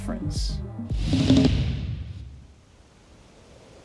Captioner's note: electronic sound